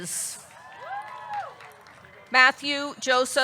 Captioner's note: audience clapping; audience cheering